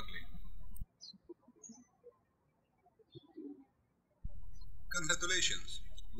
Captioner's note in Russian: птички щебечут